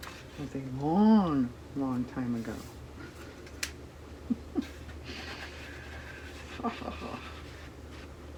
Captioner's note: laughs